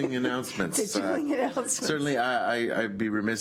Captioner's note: laughs